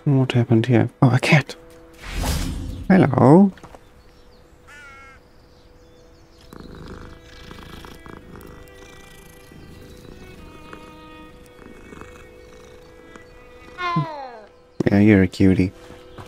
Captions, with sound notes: What happened here? Oh! a cat Hello [ cat purring ] [ Meow ] Yeah, you're a cutie all right then let's have a look to see what's in here